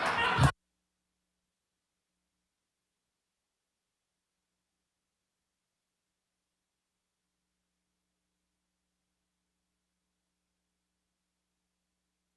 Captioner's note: laughter